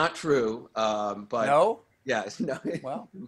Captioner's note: laughter